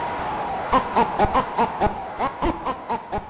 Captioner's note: crowd cheers; in-game voice warbles